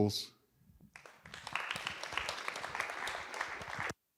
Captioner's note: applause